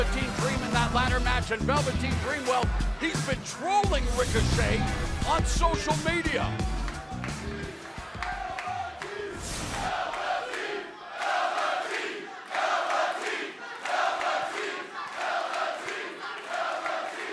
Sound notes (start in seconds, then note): 5.9 crowd cheering